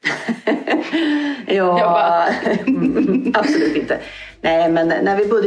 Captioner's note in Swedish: Skratt